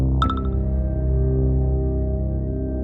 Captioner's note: dramatic music; message beeps